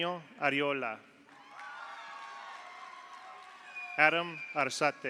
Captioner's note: audience applauds; audience cheers